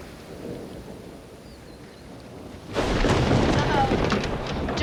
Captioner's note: wind howling; thunder